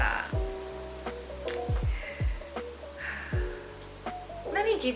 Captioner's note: sigh